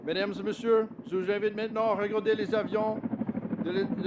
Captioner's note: speaks French